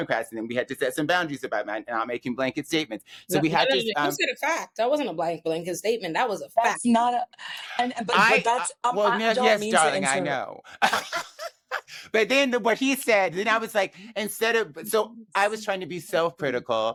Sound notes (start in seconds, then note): 10.7 laughing